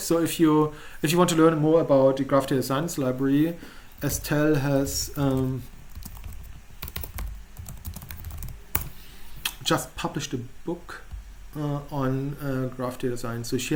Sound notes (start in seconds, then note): 5.4 typing